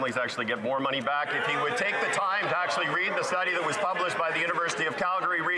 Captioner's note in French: voix de l'interprète